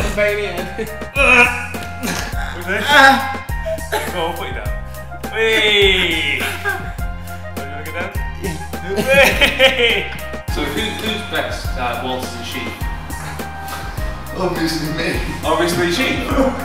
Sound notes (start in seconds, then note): 1.1 grunting